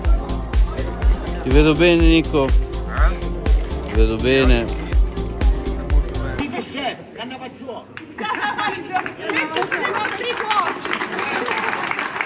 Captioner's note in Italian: Applauso